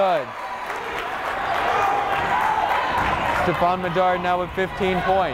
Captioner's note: cheering; clapping